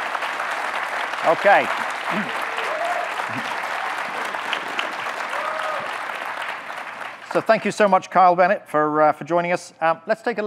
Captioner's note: audience clapping, cheering; audience clapping